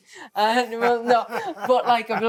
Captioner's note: Steve laughing